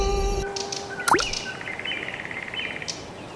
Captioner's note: birds; click